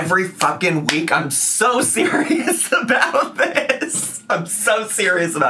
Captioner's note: laughing